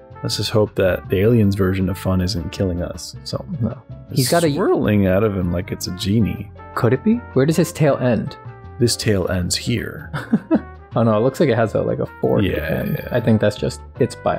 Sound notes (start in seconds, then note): 10.1 chuckles